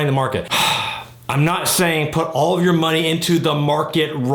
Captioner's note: loudly sighing